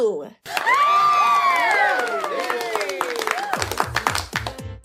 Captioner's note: uproarious applause and cheering